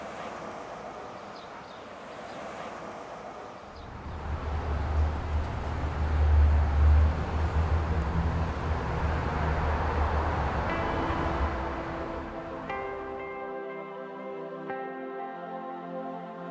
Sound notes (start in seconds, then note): 0.1 car, tweeting birds; 4.1 car